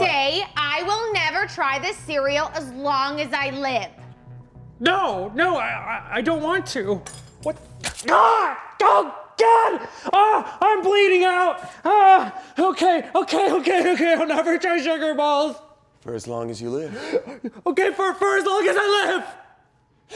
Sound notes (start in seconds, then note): 7.8 knife squelches